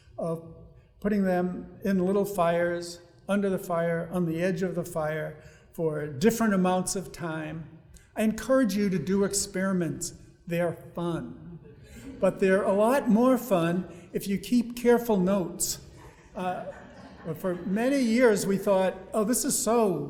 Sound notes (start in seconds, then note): 11.7 audience laughing